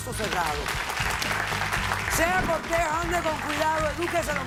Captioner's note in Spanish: aplausos